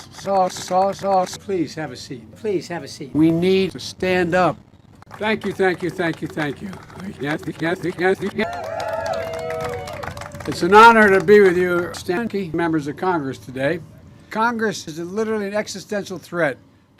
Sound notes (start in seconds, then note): 8.8 audience applause